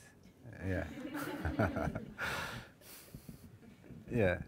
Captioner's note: laughing